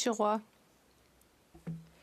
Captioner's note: speaking French